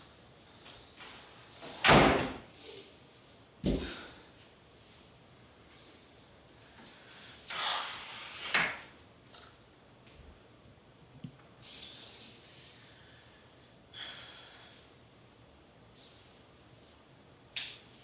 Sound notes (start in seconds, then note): 1.8 door bangs shut; 4.0 sighs